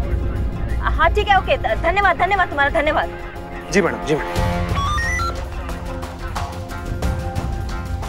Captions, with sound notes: Okay! Thank you! Yes, ma'am. [walkie-talkie beeps]